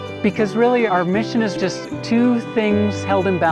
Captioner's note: none